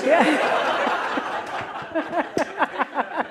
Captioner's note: laughter